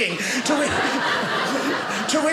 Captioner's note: audience laughing